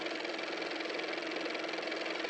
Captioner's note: car motor